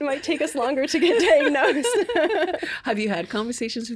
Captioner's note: laughing